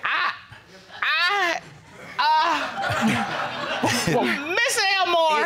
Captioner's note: audience laughing; all laughing